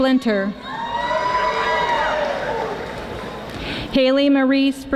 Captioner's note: audience applauding